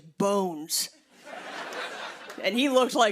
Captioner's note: laughter